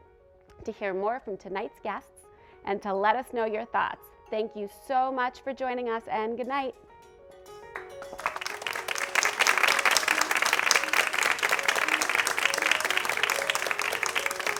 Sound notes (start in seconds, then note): 7.7 audience clapping